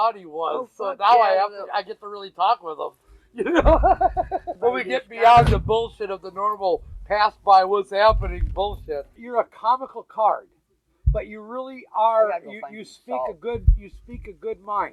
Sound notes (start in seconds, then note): 3.4 laughing